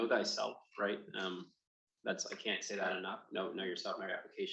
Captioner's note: none